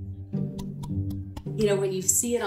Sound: mouth popping

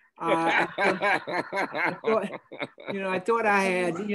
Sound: group laughing

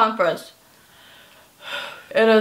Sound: exhale

